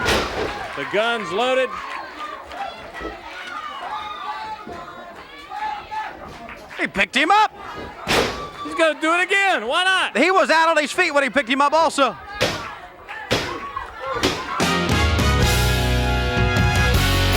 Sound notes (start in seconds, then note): 0.0 body thuds; 13.3 hand thudding; 14.7 dramatic music; 17.2 upbeat music